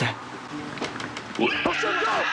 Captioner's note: screeching